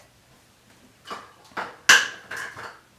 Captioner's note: cup hitting floor